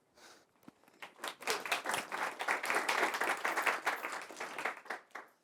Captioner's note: audience clapping